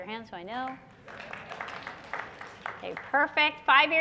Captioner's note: clapping